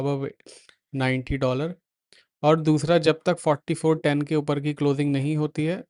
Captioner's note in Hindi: नाक से की जाने वाली आवाज़